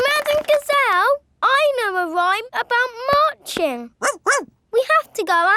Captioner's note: laughing and clapping; barks